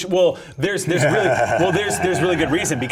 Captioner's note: laughter